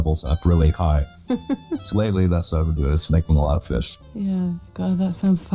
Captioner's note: chuckles